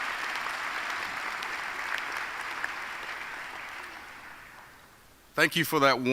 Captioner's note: applause